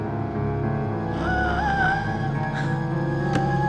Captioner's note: labored breathing